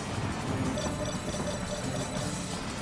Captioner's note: beeping